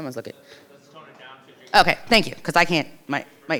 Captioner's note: participant faintly speaking